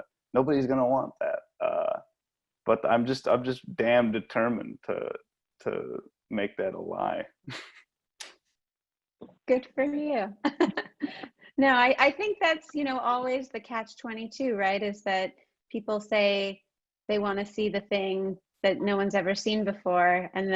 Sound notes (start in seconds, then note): 10.4 laughs